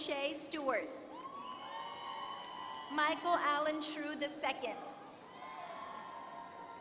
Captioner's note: applause